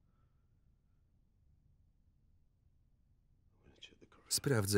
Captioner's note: none